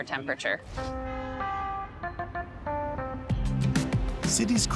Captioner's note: street noises